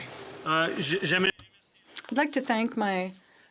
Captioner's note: speaking French